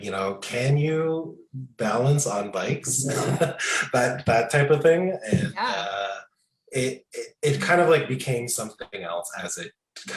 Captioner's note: laughing